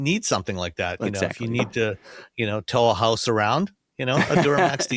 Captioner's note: laughs